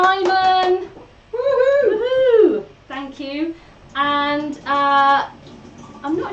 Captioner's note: cheers